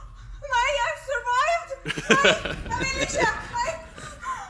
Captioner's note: speaking Norwegian